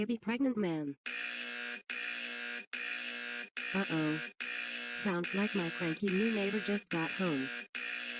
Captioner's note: buzzer sounds